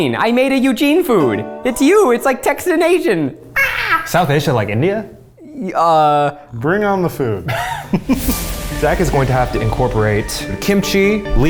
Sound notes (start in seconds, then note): 3.6 screams; 7.4 laughing